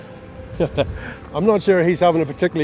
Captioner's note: laughs